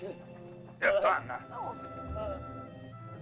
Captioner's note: Akhoba angrily speaks in caveman language; soft dramatic music